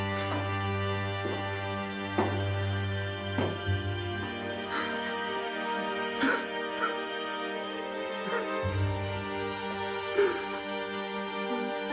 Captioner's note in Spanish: Sollozos de Rafael